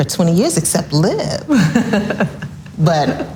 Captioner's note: laughs loudly